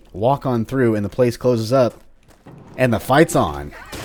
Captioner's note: door closes